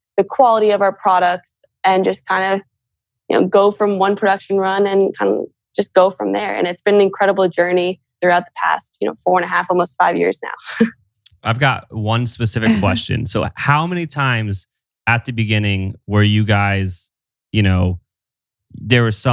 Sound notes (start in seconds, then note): 11.4 laughs